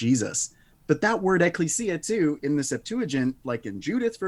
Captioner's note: speaks Greek